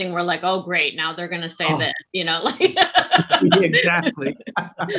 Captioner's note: laughs